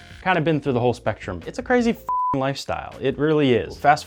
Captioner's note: beep